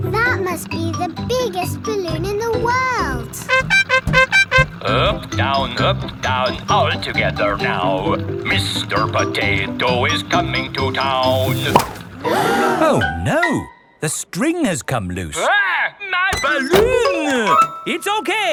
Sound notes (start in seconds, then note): 3.4 horn beeping; 12.1 all gasp